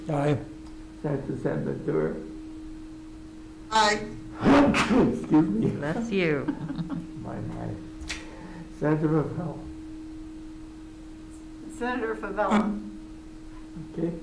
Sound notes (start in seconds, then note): 4.4 sneezes; 6.3 members laughing